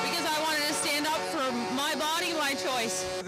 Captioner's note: horn